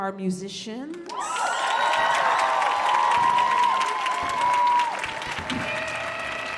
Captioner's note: cheering